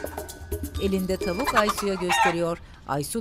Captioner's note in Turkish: Tavuk gıdaklama sesi